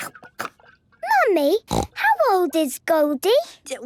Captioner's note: snorting